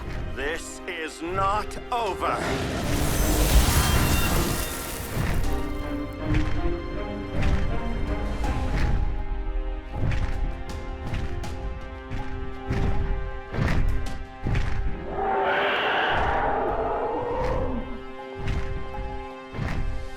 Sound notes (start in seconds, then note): 2.4 magical explosion; 15.0 Jessa roars